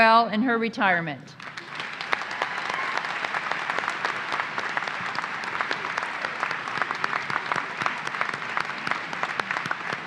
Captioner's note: applause